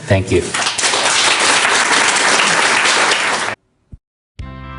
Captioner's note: audience applause